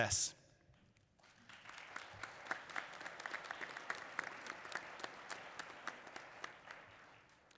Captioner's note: applause